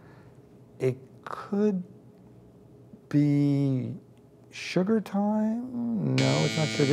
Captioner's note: buzzer buzzes